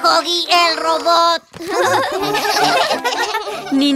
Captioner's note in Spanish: RIsas